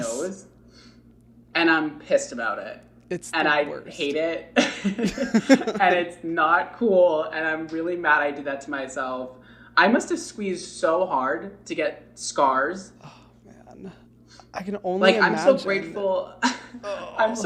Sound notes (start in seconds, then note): 4.6 laughing